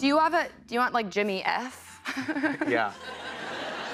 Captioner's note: chuckles; laughter